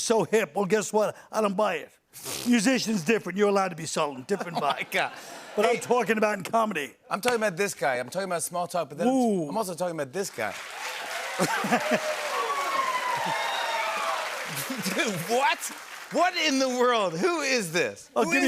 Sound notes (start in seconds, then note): 10.4 cheers and applause